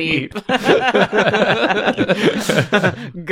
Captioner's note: laughter